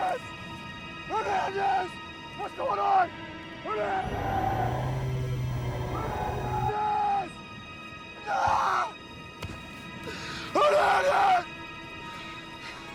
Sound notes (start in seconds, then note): 4.0 computerized humming